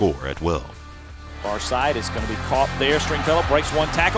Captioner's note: voiceover